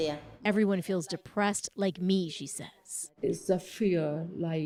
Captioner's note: speaking alternate language